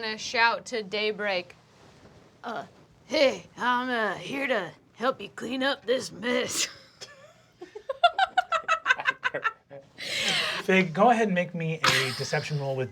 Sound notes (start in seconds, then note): 8.1 laughs